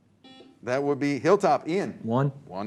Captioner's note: buzzer